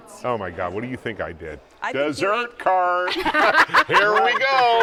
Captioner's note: laughs